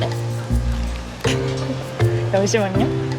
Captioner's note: laughs